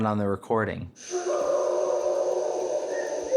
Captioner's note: eerie sound